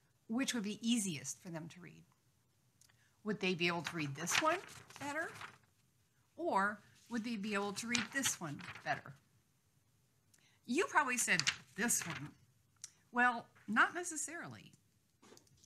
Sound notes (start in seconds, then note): 3.6 paper rustling; 11.1 paper rustling